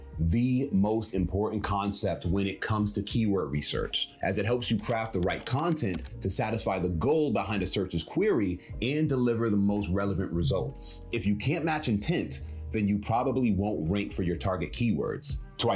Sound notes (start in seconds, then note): 4.8 keyboard clicks